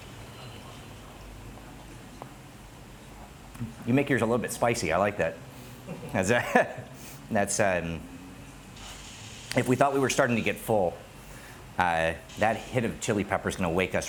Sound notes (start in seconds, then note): 5.8 laughs